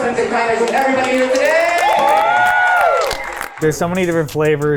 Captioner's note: group cheering and applauding